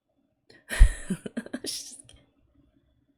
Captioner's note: laughs